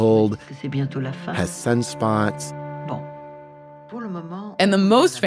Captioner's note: french dialogue; french dialogue